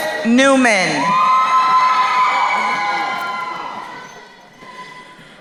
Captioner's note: crowd cheering